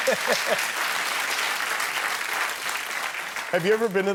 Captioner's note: applause